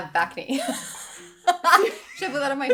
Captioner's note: laughing